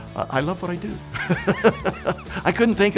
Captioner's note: laughing